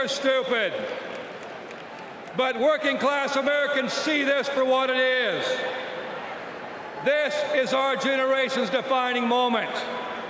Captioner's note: cheers and applause